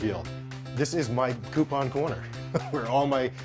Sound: laughs

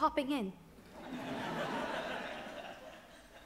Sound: audience laughs

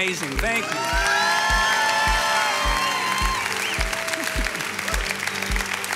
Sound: congregation cheers and applauds

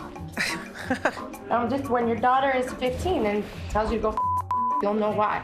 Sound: beep

